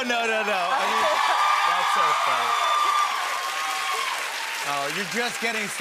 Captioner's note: cheers and applause